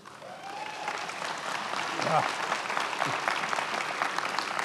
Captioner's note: many applauding